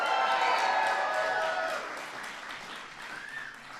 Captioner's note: applause